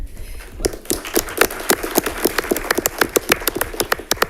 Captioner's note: audience applauds